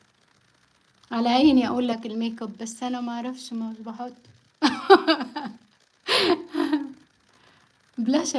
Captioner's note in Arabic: ضحك